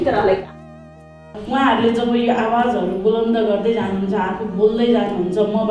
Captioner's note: in Nepali